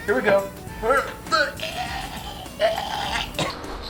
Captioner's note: chokes